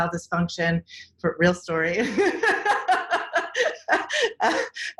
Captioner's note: laughs